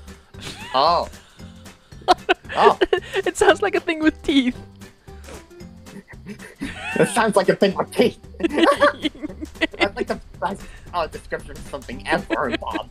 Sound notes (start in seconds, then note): 0.5 giggles